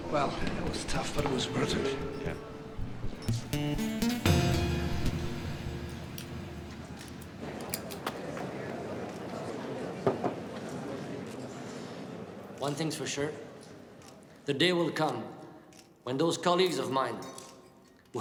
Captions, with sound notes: - Well, it was tough, but it was perfect. - Yeah. (tense music) (people chatter indistinctly) - One thing's for sure. The day will come when those colleagues of mine